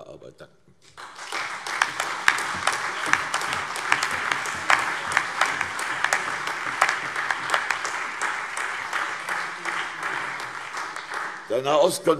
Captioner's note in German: Beifall CDU, BÜNDNIS 90/DIE GRÜNEN, SPD, AfD und Freie Demokraten